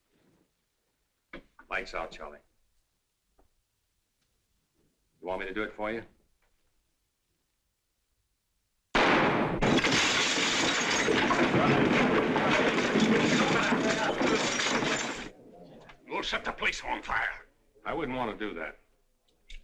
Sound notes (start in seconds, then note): 8.9 gunshot - glass shattering